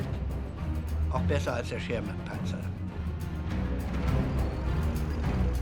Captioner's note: speaking in foreign language